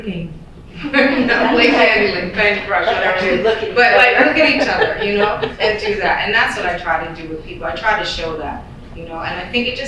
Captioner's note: laughter